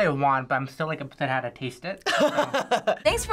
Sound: laughs

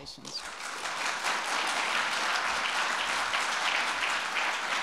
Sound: audience applauding

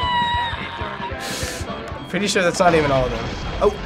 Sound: sucks air

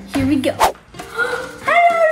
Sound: gasps

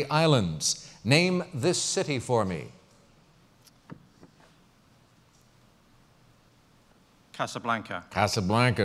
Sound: pause

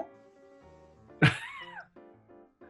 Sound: chuckling

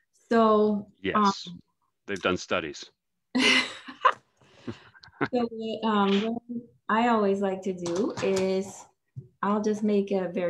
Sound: laughs

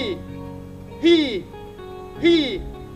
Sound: exhales

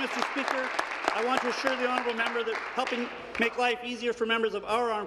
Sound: applause

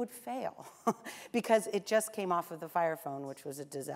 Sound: laughs

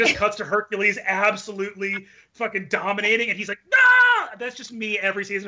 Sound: shouts

